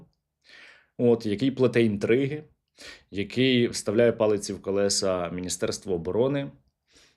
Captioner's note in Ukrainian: сопіння